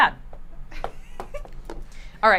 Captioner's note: laughs